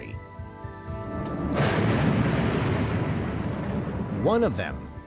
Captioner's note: explosion roars